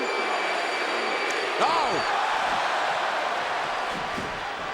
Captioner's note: blow thudding; body thudding